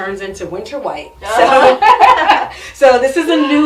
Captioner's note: both laugh